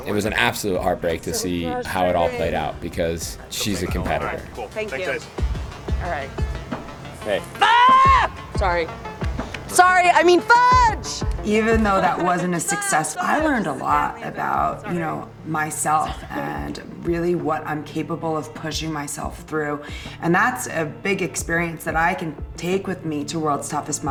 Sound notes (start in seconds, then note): 7.5 screaming; 10.3 yelling; 11.4 laughing